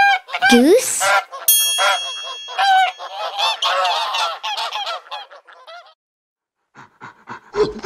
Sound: bell dings; geese honking; animal grunting

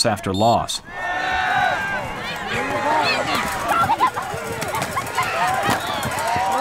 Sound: crowd cheering

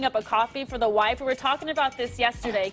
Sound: laughter

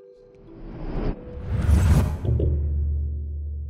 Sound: calm music; low whooshing; low thudding

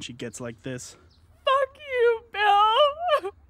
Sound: through tears

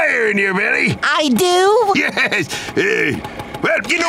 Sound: chuckles

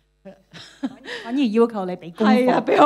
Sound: Cantonese

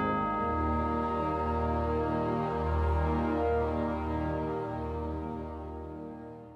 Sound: bell toll

